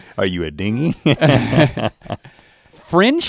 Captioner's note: both chuckle